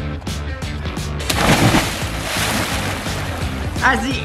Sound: water splashing

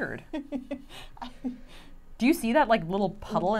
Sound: laughing

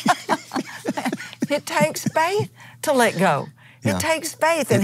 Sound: laughs

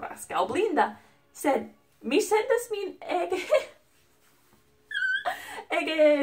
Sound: laugh

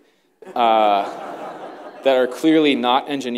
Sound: laughter

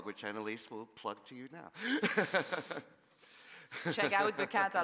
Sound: laughs

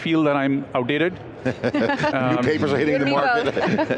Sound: laughs

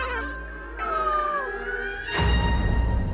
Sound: painful grunting; dramatic music continues

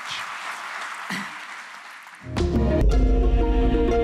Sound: audience applauds; gentle rhythmic music

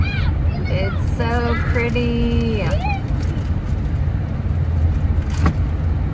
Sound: kids yelling

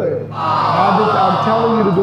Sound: crowd jeering

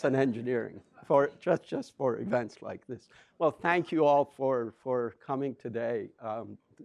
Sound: laughs

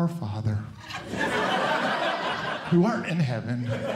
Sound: audience Laughing

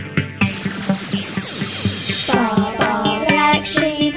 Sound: lasers fire

